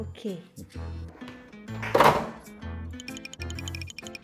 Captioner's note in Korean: 우당탕탕